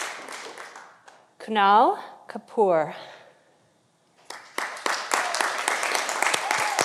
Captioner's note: audience applauding